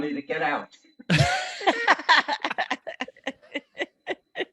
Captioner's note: laughing